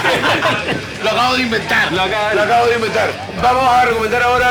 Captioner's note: laughs